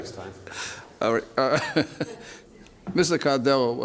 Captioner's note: laughs